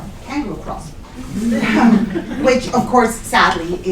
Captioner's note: laughter